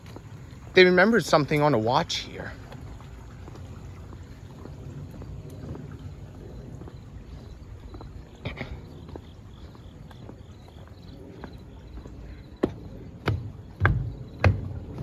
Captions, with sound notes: They remembered something on a watch here. [clears throat]